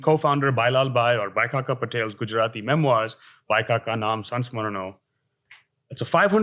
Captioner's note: hindi